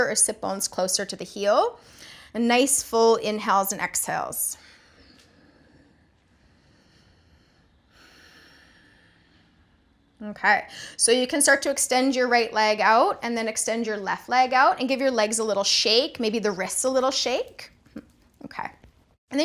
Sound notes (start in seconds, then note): 6.4 breathing sounds